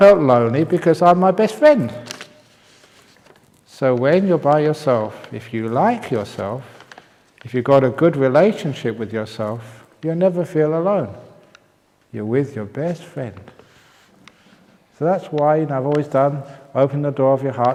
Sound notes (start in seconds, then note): none